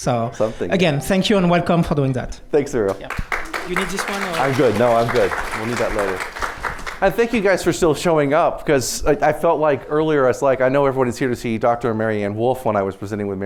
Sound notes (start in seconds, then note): 2.9 applause